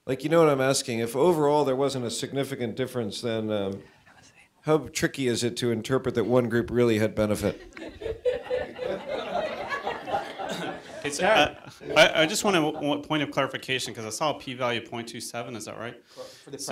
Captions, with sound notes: like you know what I'm asking. If overall there wasn't a significant difference, then how tricky is it to interpret that one group really had benefit? (audience laughter) - I just want a point of clarification, because I saw a P value of 0.27, is that right?